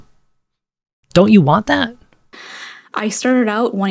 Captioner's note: inhale